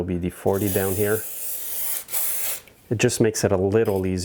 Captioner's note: aerosol hissing